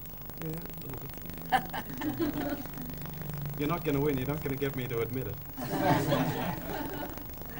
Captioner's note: laughs; laughter